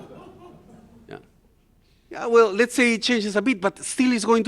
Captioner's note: laughter